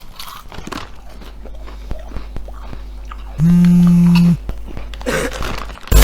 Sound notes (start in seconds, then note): 0.0 crunch; 0.5 electric humming sound